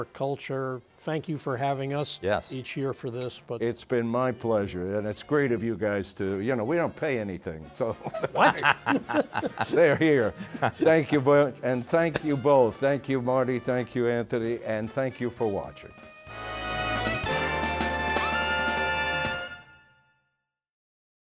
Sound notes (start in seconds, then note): 10.0 all laughing; 18.0 bright upbeat music